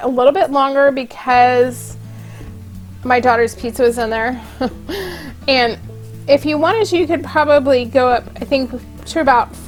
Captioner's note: little laugh